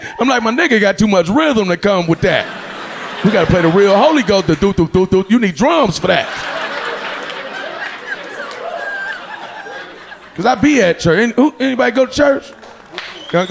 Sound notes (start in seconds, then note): 5.6 audience laughing